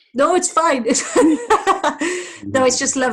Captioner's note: laughter